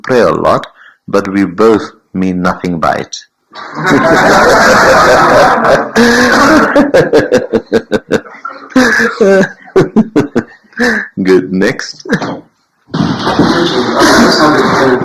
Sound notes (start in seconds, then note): 3.7 general laughter